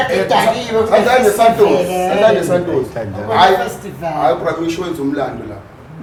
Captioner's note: indistinct chatter